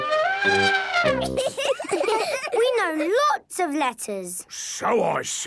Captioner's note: trumpets; laughing